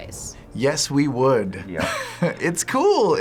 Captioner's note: chuckles